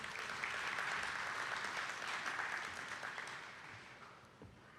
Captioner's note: attendees clapping